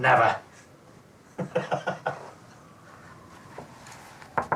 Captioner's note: chuckles